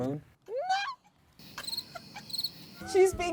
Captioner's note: crickets